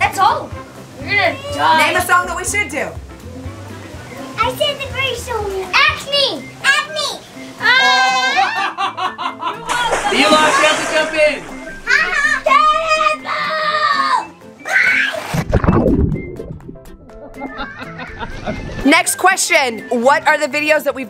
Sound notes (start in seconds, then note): 8.4 laughing; 9.6 splash; 15.4 upbeat music; 17.2 laughing